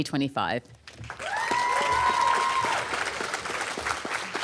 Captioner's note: applause